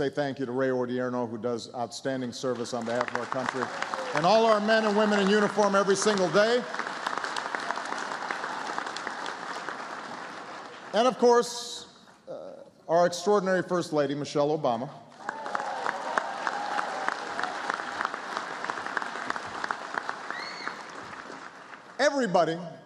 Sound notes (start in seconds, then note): 7.7 applause; 18.7 applause